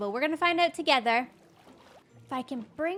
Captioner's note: none